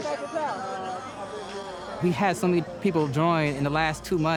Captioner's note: chattering